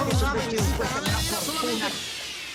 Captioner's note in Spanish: Hablan al unísono